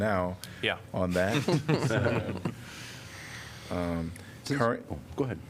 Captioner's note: laughter